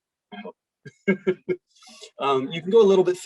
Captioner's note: laughs